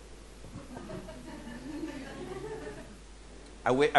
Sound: audience laughing

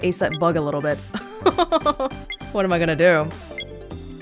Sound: chuckles

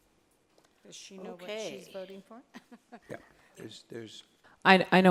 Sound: laughs

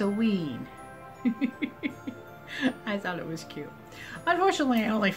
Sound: chuckle

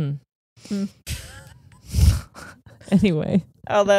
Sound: both chuckle

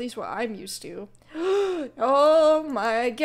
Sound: gasps

